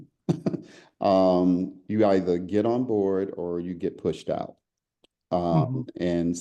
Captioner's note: laugh